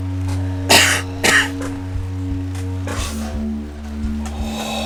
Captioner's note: coughing